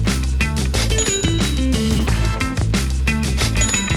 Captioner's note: register bell rings; register bell rings